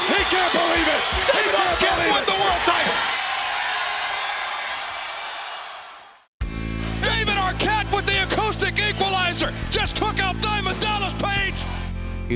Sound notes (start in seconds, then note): 3.7 audience cheers